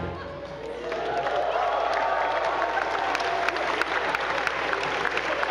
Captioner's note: attendees applauding